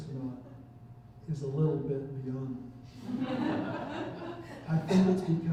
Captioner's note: chuckling